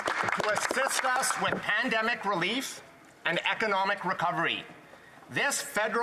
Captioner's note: some Applause